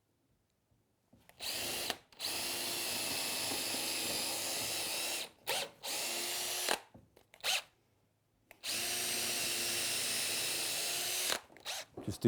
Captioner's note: drill